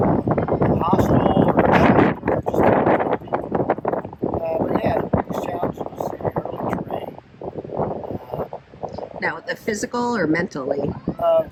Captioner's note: too much wind